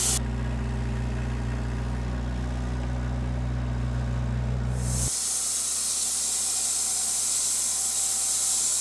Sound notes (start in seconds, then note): 0.0 forklift engine roaring; 4.6 saw revving